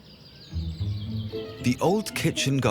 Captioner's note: speaking in foreign language; birds singing; upbeat music